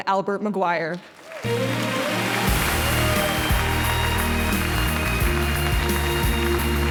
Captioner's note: audience applauding; upbeat music